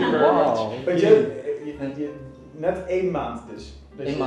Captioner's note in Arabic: بالهولندية